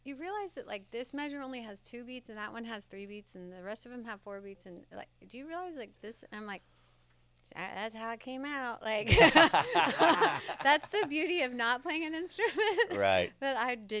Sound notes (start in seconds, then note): 9.0 laughing